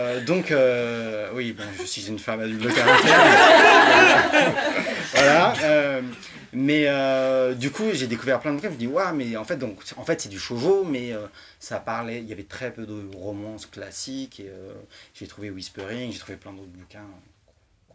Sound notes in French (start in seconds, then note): 2.5 rires